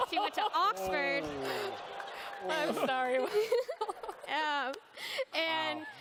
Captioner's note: laughter